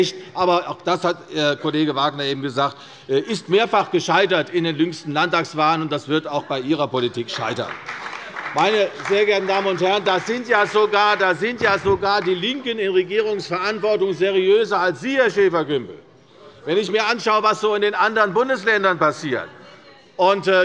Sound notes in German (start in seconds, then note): 7.2 Beifall bei der CDU und dem BÜNDNIS 90/DIE GRÜNEN